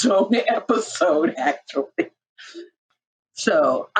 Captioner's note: laughing